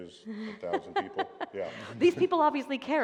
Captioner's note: laughter